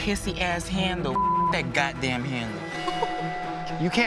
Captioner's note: beep